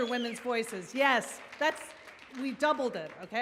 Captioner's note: audience cheers